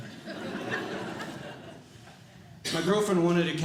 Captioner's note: audience Laughing